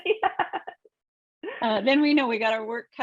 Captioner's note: laughs